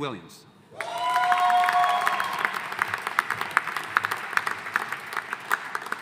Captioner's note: audience applauding